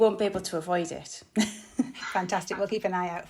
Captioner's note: laughing